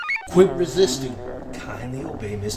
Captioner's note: computer chirps; Nev growls